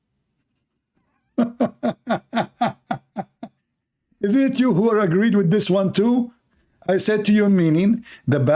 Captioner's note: Ketawa